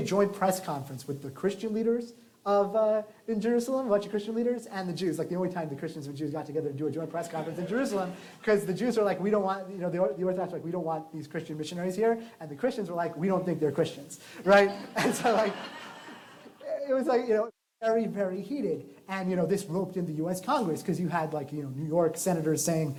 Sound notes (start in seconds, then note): 14.5 laughter